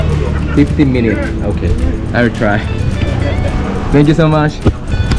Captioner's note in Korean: 웃음 소리